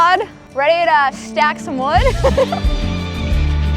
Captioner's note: laughing